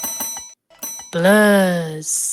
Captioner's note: bells ringing; bell ringing